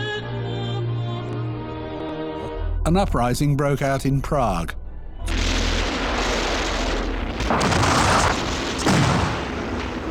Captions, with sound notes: An uprising broke out in Prague. (guns roaring)